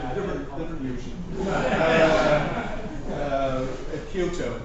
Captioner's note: laughter